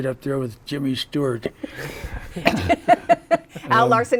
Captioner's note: laughter